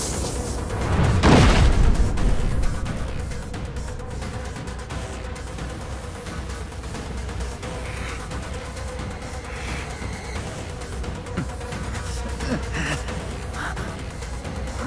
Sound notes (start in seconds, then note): 2.4 tense music continues; 7.4 Hwoarang pants; 11.1 moans